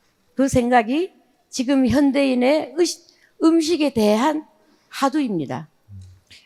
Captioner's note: speaking in foreign language